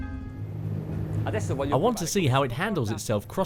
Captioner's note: man speaks in foreign language